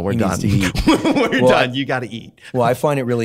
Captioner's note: laughs